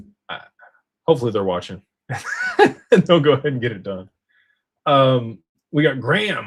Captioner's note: laughter